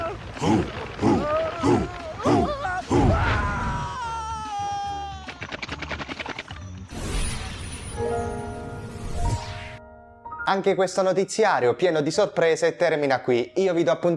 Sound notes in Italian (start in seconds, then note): 1.9 Applauso